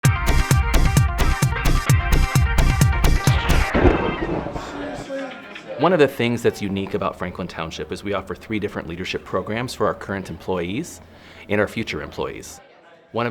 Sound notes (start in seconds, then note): 0.0 upbeat music; 3.2 lightning crackling